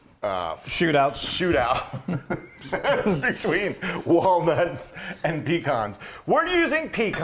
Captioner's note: laugh